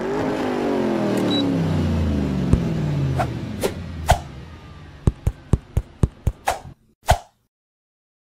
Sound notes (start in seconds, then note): 0.2 car Stops Again